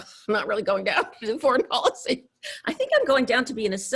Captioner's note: laughs